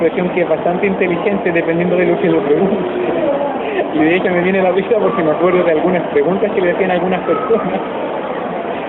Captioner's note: laughs